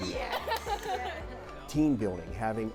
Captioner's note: kids laughing